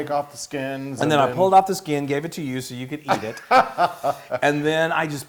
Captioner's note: laugh